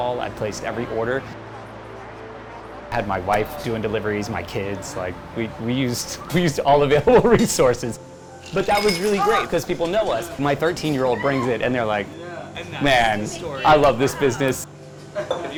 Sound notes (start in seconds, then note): 6.1 laughing